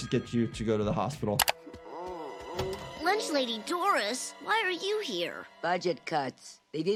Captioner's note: groaning